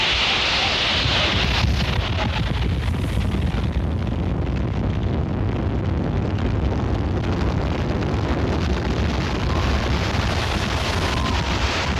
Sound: wind becomes so loud, it drowns out all other sounds

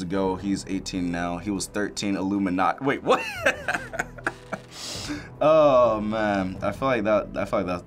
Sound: laughs

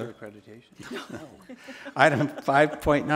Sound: board members laugh

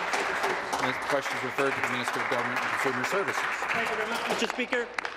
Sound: applause

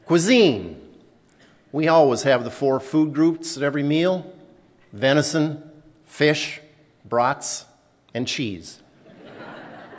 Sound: laughter

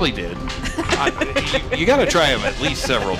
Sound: laughing

